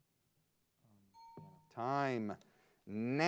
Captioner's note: bell dings